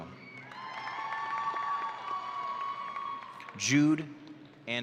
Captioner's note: audience cheering